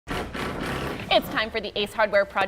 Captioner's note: power tools buzzing